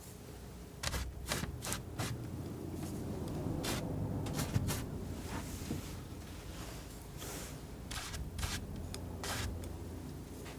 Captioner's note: scratching